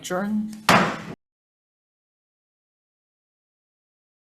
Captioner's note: gavel banging